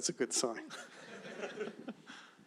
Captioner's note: laughter